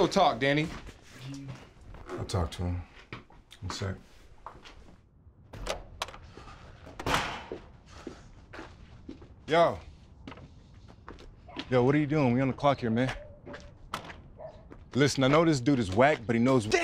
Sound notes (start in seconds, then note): 3.4 door bangs open